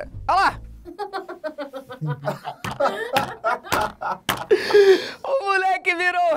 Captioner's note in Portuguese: risadas